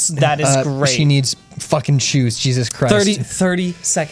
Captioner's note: pat